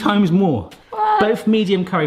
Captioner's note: gasping